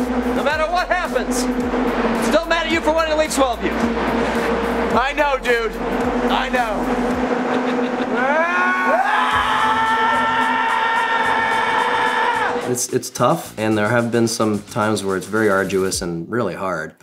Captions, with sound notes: No matter what happens, I’m still mad at you for wanting to leave Swellview. I know dude, I know. [screaming] It’s tough and there have been some times where it’s very arduous and very hard.